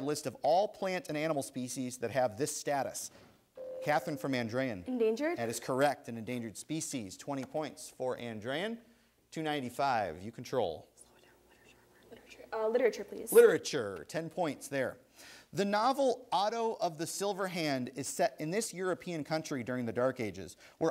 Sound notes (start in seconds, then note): 3.6 ding; 11.0 whispering